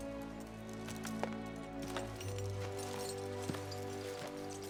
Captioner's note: clanking of gear